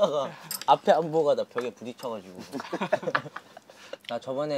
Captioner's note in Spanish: Jajaja